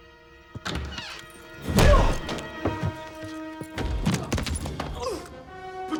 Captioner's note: Dalton exclaims; door clicks; Dalton grunts